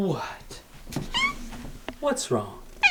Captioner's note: cat meows